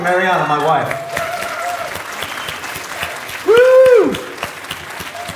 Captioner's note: audience applause